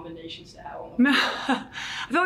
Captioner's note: laughs